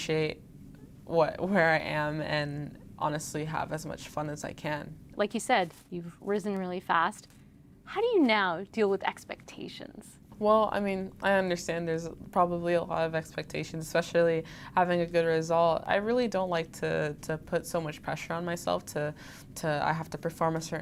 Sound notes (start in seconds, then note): none